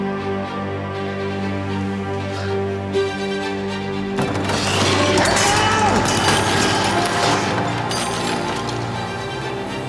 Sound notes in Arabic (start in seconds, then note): 5.4 صراخ; 5.8 ارتفاع موسيقى التوتر